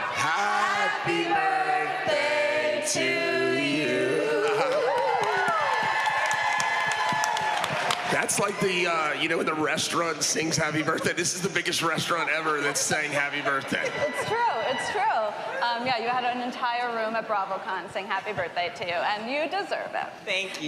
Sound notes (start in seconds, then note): 4.4 cheering and applause